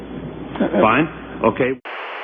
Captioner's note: stammers; static